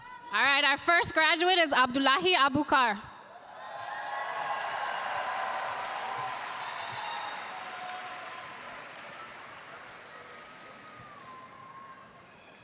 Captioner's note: applause